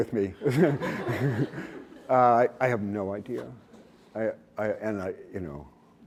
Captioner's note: laughs